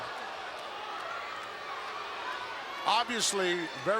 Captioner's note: crowd booing